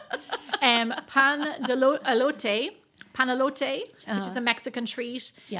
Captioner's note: laughing